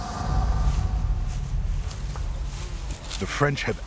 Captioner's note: footsteps